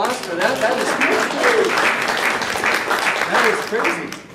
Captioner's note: audience applauding